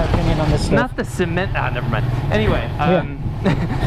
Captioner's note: both chuckle